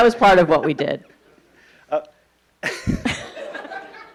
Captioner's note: laughing